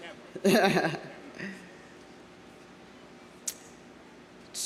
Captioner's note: audience laughing; laughing